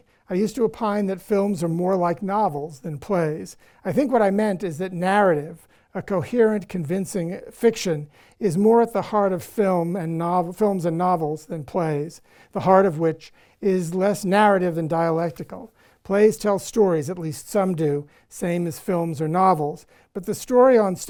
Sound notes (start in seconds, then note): none